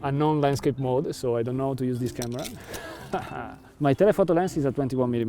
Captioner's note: laughs